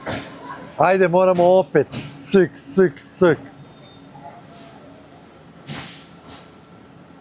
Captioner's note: snort